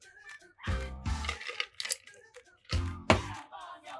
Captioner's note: ice clinking